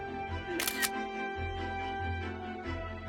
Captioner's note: camera shutter sound